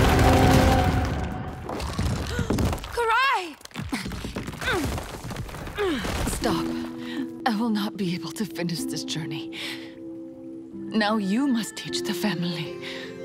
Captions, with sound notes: [gasping] Karai! [grunting] Stop. I will not be able to finish this journey. Now you must teach the family.